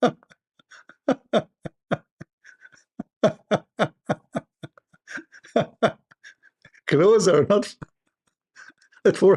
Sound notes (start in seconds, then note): 0.0 Ketawa